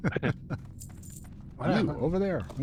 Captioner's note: laughs